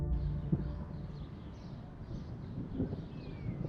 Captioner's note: birds chirping; thunder rumbles